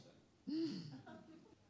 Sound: laughter

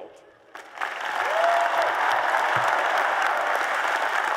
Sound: applause and Cheers

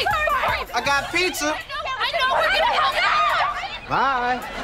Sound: arguing

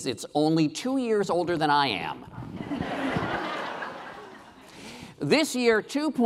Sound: laughing

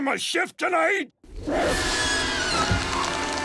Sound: creaking

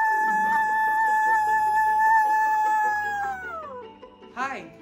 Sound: continues cheering

